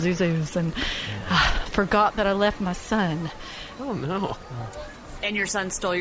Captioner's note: sighs